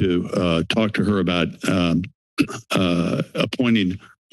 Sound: clear the throat

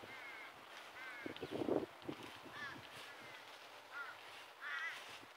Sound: scuffle scuffle

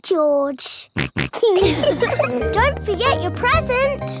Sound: snorts; laughs

